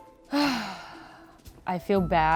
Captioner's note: sighs